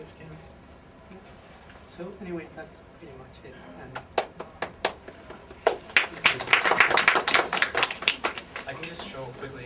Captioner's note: applause